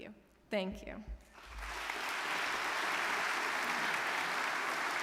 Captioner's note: audience clapping